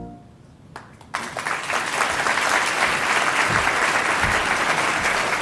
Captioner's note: applause